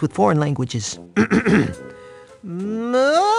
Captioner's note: clears throat